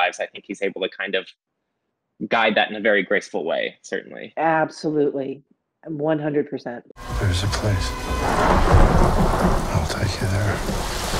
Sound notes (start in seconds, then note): 7.0 intense orchestral music; 7.0 thunder crashes